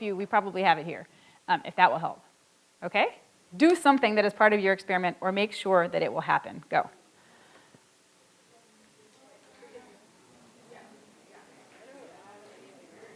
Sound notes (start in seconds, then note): 8.1 audience chattering softly